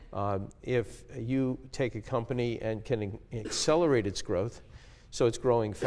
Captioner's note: cough